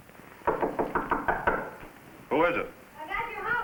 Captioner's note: knocking on door